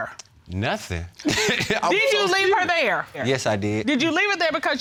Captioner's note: chuckles